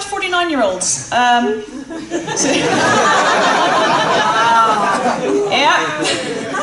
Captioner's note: laughter